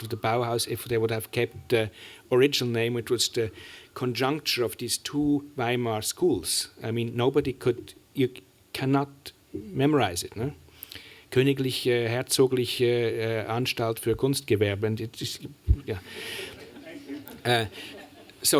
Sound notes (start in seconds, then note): 10.1 german; 15.8 chuckling